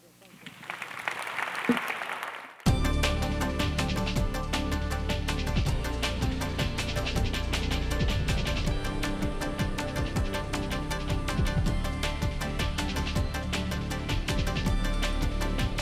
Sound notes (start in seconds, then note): 3.2 applause; 5.5 up-tempo music